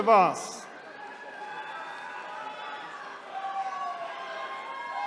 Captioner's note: attendees cheering